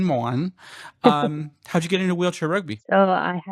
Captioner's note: laughter